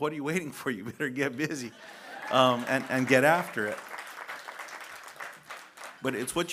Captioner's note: laughter & applause